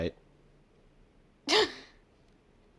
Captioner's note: laughs